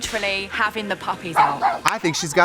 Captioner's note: dog barks